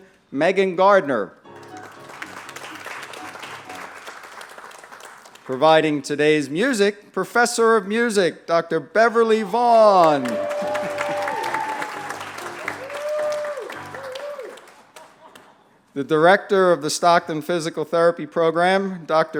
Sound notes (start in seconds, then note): 1.5 applause; 10.0 applause and music